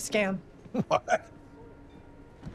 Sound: laughing

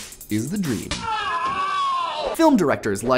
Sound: screaming

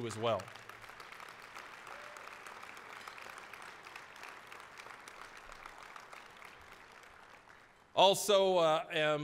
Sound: applause

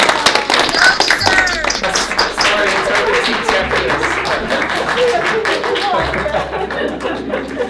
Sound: applause

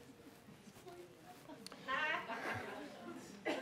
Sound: laughing

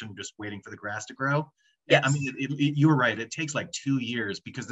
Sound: talking

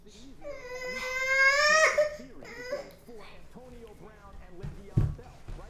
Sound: baby crying

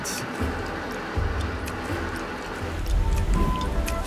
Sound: ratcheting wrench sounds

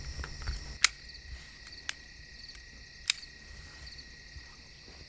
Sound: gun clicking

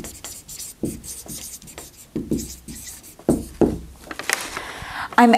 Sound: sounds of marker writing

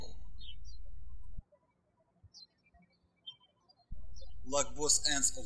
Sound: birds chirping

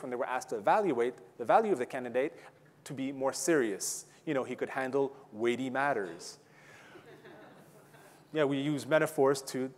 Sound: audience laughing

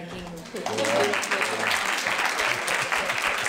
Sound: applause

